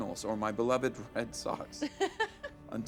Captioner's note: laughing